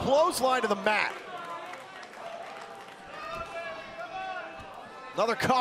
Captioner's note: crowd cheering